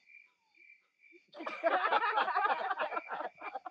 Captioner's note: laughing